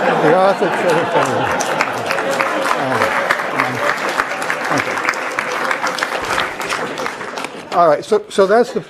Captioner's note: applause